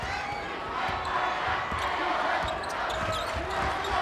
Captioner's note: crowd chants